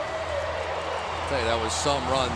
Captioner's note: pa announcement